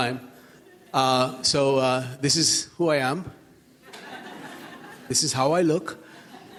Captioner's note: audience laughs; audience laughs